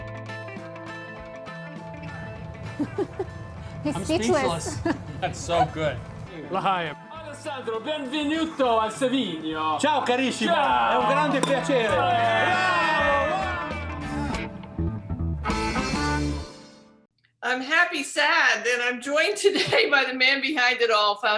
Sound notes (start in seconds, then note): 0.0 bright upbeat music; 2.6 woman laughing; 6.6 bottle top popping; 6.6 speaking in foreign language